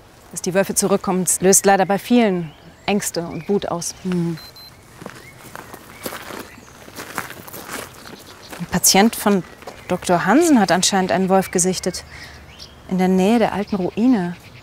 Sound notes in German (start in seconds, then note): 4.2 Piepsen